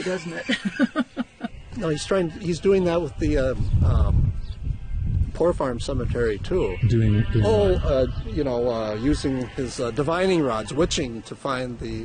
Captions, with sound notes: - [Voiceover] Sounds like voodoo, doesn't it? (laughing) - [Voiceover] No, he's doing that with the... poor farm cemetery too. - [Voiceover] Doing what? - [Voiceover] You know, using his divining rods,